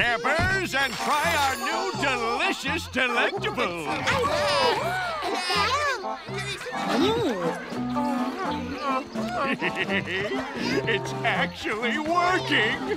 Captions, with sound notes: and try our new delicious delectables! [excited chatter] Hehehe, it's actually working!